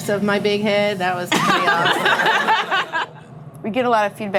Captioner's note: laughing